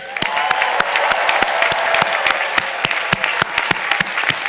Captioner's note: audience applauding